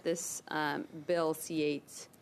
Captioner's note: speaking French